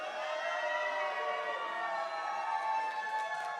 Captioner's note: cheering, applause